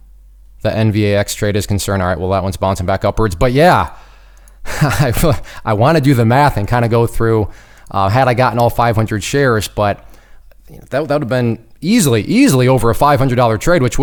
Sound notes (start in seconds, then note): 4.7 laughs